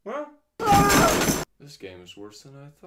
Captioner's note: exclaims